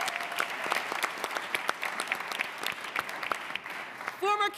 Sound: applause

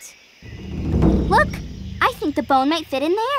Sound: none

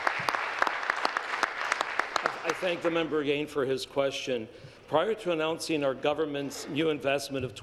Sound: applause

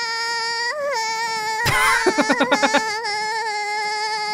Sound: chuckles

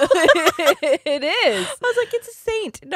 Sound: both laughing

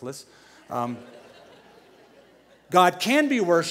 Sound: laughter

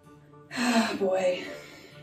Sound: sighs

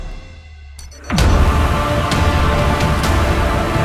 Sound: epic music continues; beeping

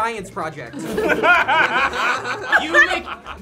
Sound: group laughs

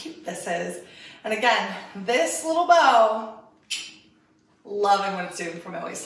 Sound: clicks tongue

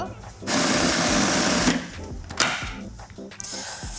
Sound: blender whirring

